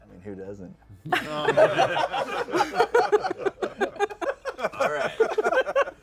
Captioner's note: laughter